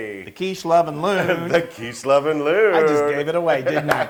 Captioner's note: laugh